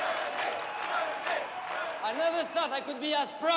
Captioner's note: people chanting